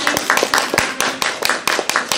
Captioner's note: audience applauds